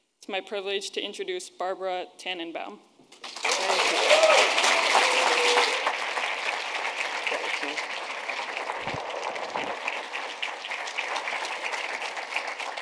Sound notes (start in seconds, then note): 3.2 attendees applauding; 3.4 attendees cheering